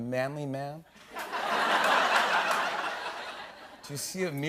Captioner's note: laughter